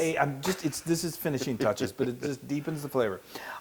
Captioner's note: laugh